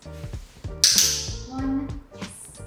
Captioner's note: clicker clicking